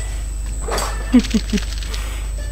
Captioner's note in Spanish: risas